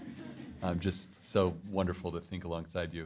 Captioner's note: crowd laughing